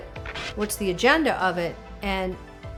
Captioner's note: radio static hissing